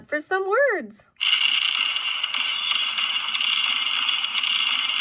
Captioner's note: fireworks bang